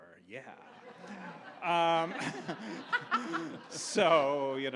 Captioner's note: audience laughs